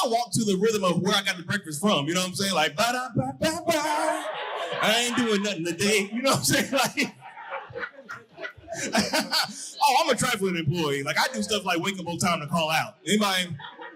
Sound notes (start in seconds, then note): 7.6 audience laughing; 13.1 audience laughing